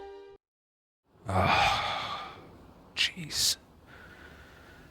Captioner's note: sigh